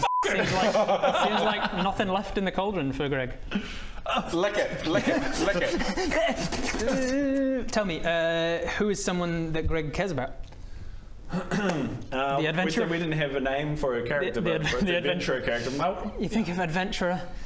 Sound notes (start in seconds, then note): 5.2 frantic slurping